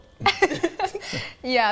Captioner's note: laughing